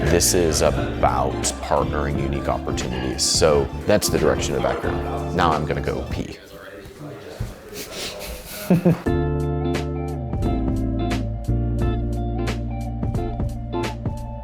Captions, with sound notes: this is about partnering unique opportunities. So that's the direction of Backroom. Now I'm gonna go pee. (laughing) (calm music)